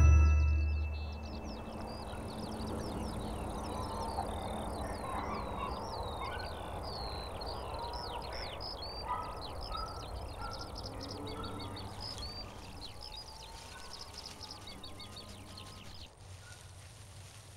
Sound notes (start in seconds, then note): 1.0 birds twitter